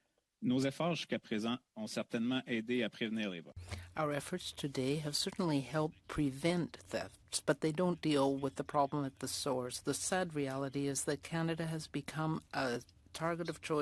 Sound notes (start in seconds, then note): 5.5 speaking French